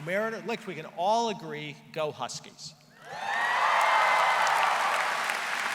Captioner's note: cheering; applause